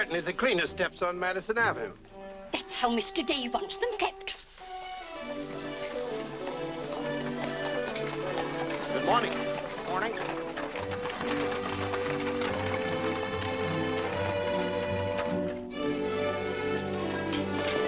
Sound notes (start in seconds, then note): 7.2 hooves trotting; 10.7 hooves trotting & cart rattling